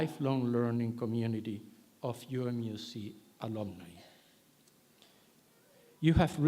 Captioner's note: none